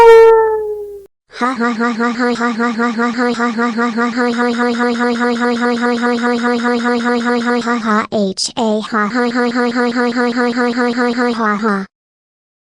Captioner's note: laughing evilly